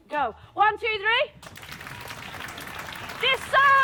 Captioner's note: applause starts